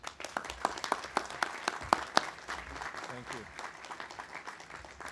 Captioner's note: audience applauding